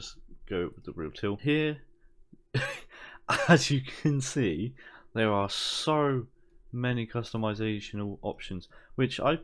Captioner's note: laugh